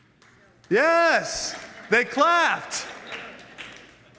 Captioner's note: audience applauds